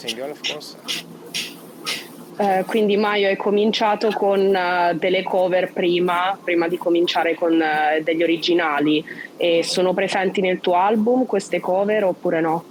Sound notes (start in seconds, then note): 1.0 speaks Italian